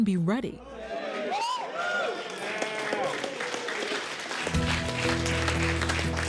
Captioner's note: cheers and applause